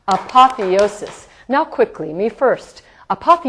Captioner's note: tapping in the background